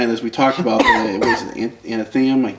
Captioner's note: coughs